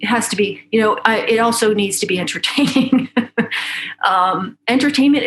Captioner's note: laughs